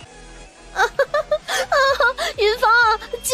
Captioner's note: laughter